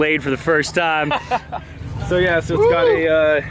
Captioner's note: laughing